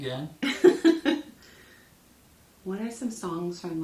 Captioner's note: laughs